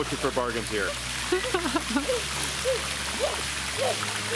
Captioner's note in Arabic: يضحك